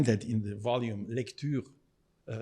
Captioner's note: speaking in foreign language